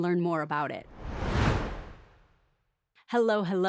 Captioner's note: whoosh